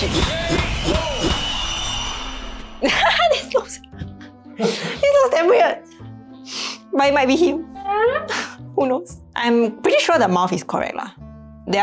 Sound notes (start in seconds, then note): 2.9 laughs